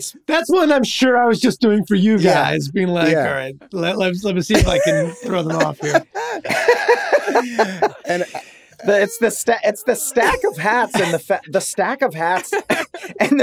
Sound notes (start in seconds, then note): 6.3 all laughing